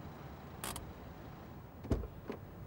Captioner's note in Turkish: El freni çekme sesi; Kapı açılma sesi